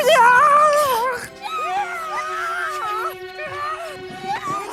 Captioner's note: cheering